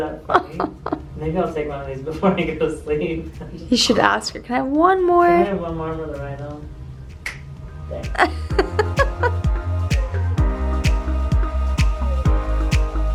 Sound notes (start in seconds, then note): 6.7 snaps; 8.1 laughs